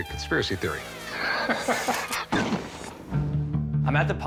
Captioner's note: laughs